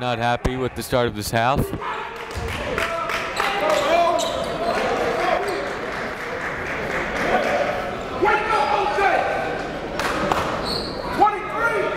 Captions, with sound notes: Holdford not happy with the start of this half. (applauding) (coaches yelling)